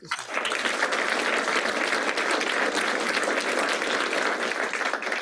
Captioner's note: applause